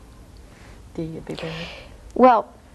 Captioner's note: speaks softly